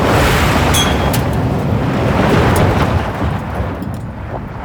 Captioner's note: whooshing